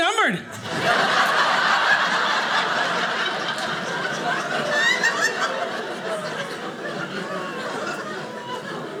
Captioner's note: audience laughing